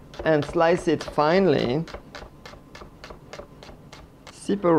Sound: slicing sounds

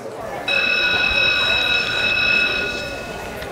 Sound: school bell rings

